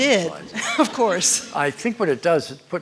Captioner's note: laughter; chuckles